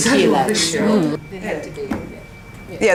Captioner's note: participant chatter